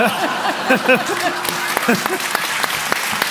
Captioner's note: laughter, applause